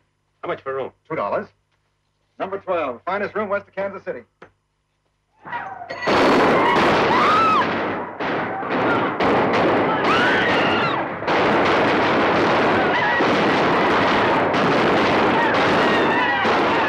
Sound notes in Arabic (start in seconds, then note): 5.3 صوت البنادق; 6.4 يصرخ الحشد; 6.4 صراخ السيدات; 15.3 الرجال يصرخون